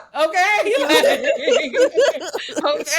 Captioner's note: laughing